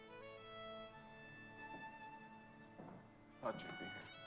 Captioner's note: knock on door